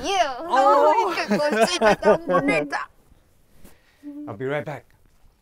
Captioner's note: everyone laughing